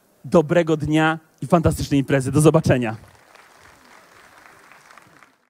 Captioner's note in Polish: oklaski